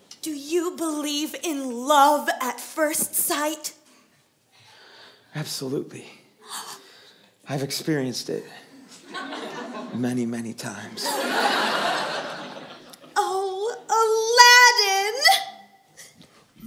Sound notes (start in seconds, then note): 6.4 PRINCESS gasps